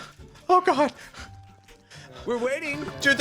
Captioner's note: panting